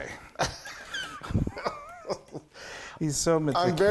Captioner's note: laughing